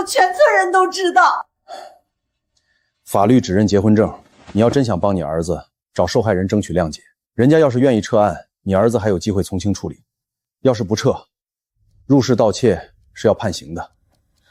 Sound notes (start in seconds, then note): 1.6 sigh